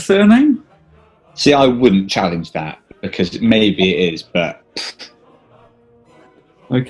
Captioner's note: scoffs